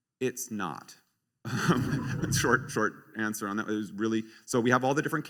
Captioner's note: laughs